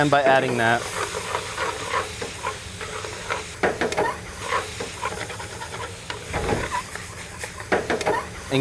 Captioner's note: sizzling